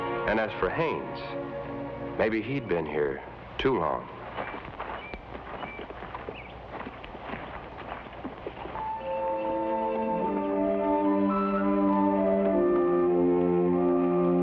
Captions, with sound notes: And as for Haines, maybe he'd been here too long. (birds chirp) (somber music)